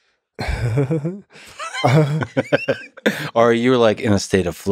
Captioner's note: laughing